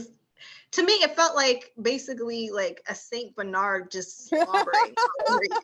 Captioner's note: laughter